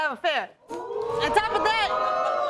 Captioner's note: audience react